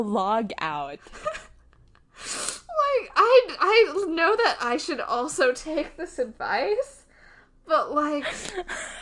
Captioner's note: laughs